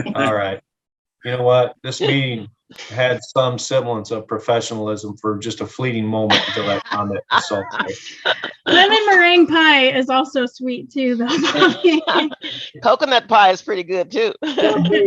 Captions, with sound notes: - All right, this meeting had some semblance of professionalism for just a fleeting moment-- (speaking faintly) (laughing) - Lemon merengue pie is also sweet too. - Coconut pie is pretty good too.